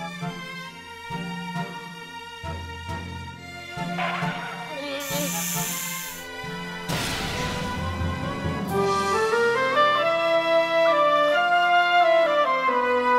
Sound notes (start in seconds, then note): 4.9 snakes hissing; 8.5 classical music continues